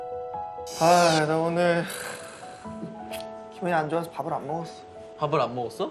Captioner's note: sigh